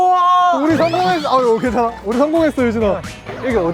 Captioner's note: startled and choked